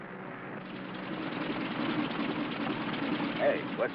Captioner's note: plane engine chugs